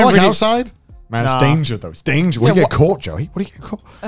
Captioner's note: murmurs